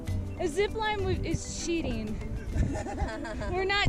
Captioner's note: laughter